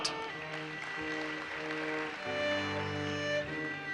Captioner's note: audience applauses